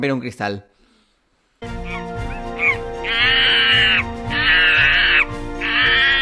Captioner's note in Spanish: Sonidos de mono